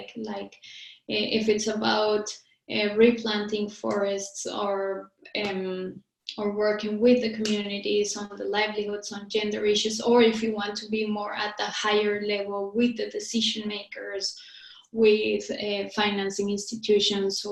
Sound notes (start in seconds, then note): none